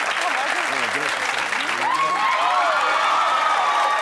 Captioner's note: cheering